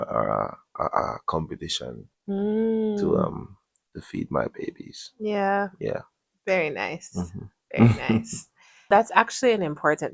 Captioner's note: clears throat